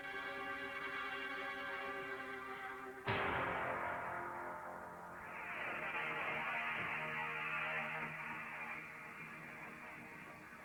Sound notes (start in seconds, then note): none